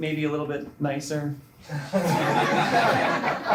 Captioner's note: laughter